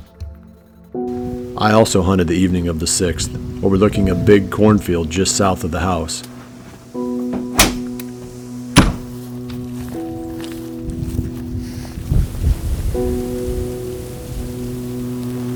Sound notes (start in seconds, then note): 6.2 sound of closing doors; 9.3 soft music